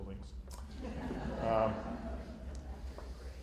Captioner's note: laughter